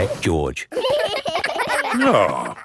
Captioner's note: giggling